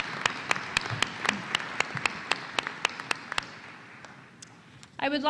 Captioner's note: applause